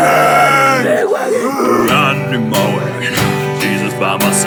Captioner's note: worshipers growling